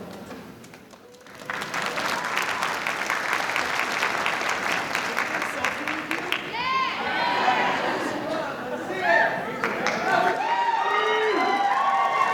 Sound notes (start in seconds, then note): 0.7 audience applauding; 6.7 audience cheering